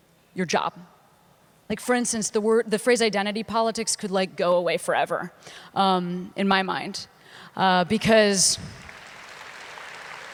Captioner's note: applause